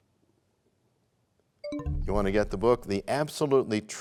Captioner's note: bell chimes, time expires